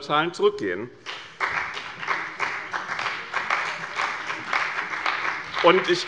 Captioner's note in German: Beifall bei dem BÜNDNIS 90/DIE GRÜNEN und der CDU